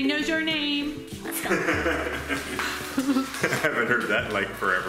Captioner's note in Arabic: يضحك